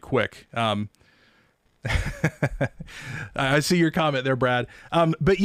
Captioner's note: laughs